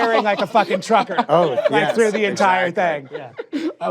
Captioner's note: laughter